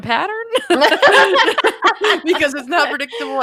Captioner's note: laughs